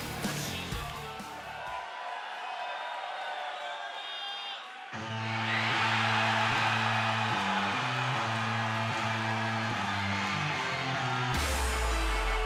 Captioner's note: cheers and applause